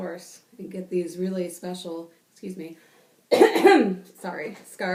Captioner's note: coughs